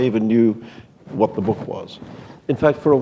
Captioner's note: none